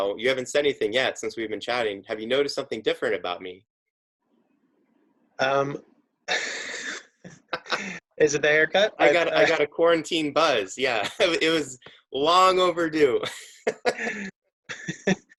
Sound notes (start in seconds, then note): 6.3 both laughing; 13.1 laughs